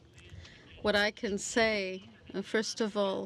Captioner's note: speaking French